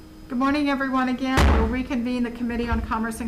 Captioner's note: gavel banging loudly